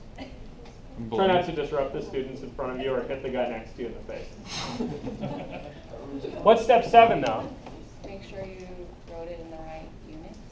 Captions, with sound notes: Try to not disrupt the students in front of you or hit the guy next to you in the face [laughing]. What's step seven, now? >> Make sure you throw it in the right units?